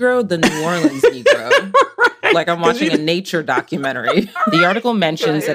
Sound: laughs

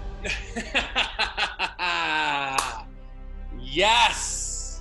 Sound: laughing; hands clapping

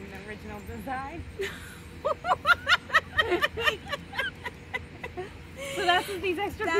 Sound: laughs

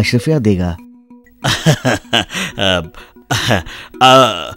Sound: laughs

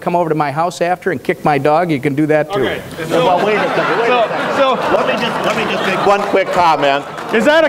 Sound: audience laughs

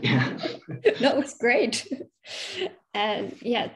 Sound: chuckles

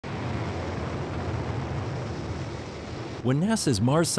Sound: roar of rockets slowing rover's descent

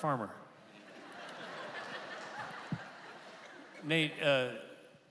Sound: congregation laughing

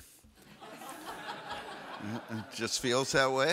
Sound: audience laughs

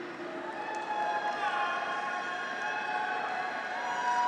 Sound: graduates cheer

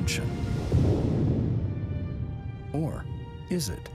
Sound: air whooshing

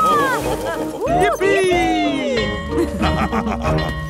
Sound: school bell ringing; both laughing

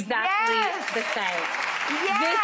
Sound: audience claps

